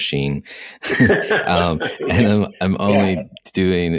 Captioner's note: laughs